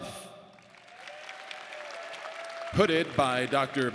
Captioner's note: audience applauding